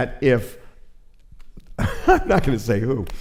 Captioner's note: laughs